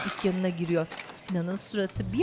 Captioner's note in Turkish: Kapı açılma sesi